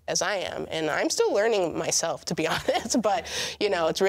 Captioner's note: laughs